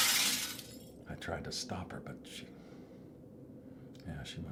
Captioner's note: crash